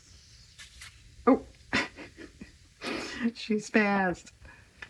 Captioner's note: laughs